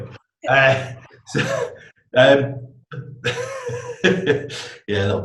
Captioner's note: laughs